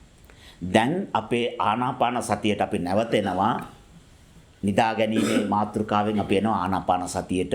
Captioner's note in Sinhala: උගුර කෑරීම